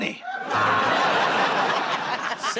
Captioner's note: laughter, buzzer